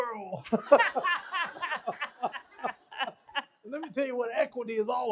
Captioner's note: laughs